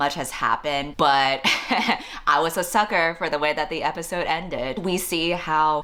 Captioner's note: laughs